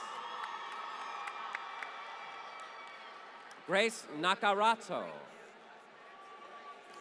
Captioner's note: applause